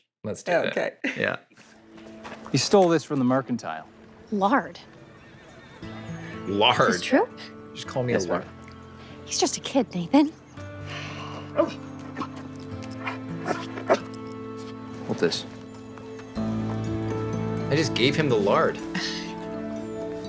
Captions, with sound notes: - Let's do it, yeah. - Okay. - He stole this from the mercantile. - Lard. (soft guitar music) - Lard. - Is this true? - What did you just call me? - Yes, ma'am. - He's just a kid, Nathan. (dog barking) - Hold this. I just gave him the lard.